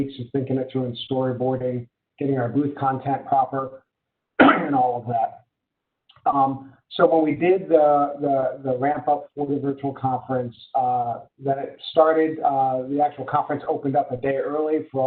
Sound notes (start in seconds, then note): 4.4 caughs